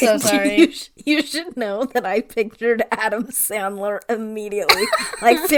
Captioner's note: laughing